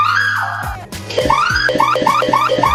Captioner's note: screams